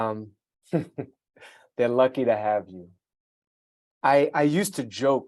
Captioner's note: chuckling